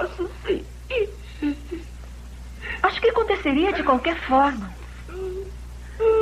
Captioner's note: sobs